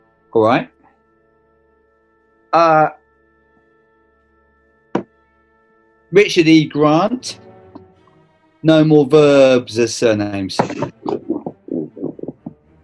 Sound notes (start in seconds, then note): 10.3 thud